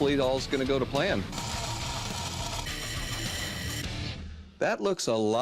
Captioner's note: tools whirring